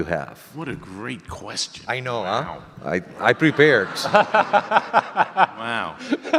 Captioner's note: audience laughter